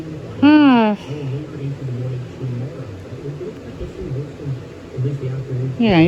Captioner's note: "21Alive News at 4" plays in background